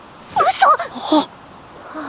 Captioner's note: gasp